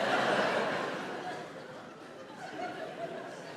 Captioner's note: audience laughs